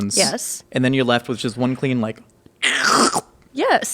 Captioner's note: slurps